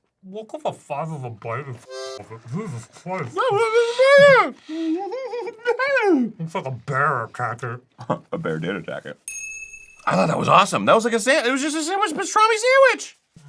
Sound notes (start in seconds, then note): 4.8 giggles out his food; 9.2 twinkle soud